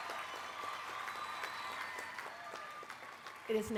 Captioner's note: applause